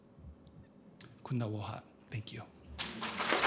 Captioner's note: non-english speech